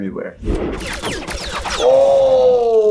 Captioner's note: fire shots